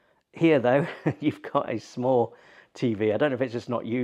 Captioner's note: laughs